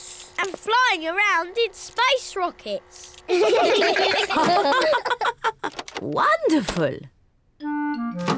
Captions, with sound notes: And flying around in space rockets. (ALL LAUGH) Wonderful.